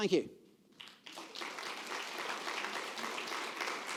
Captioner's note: applause